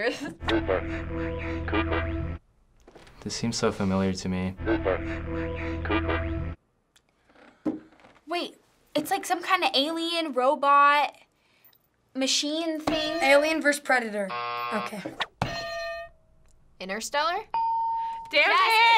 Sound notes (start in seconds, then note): 0.2 staticky voice; 4.5 staticky voice; 14.3 buzzer